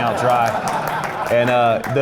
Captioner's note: laughing, clapping